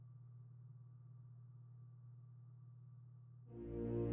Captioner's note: machine rumbling faintly; grand music